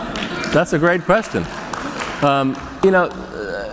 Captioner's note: applause